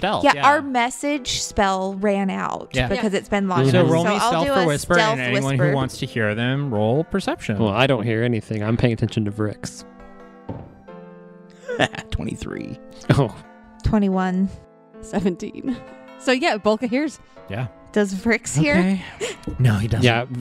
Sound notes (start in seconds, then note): 9.8 sound of a die landing, laughs; 13.3 laughing